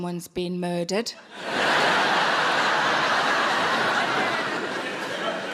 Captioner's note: audience laughing